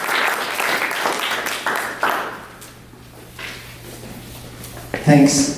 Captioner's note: clapping from the audience